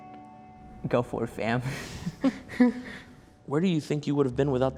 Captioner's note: chuckling